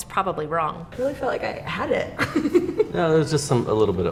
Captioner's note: interviewee giggles